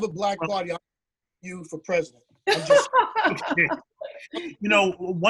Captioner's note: laughter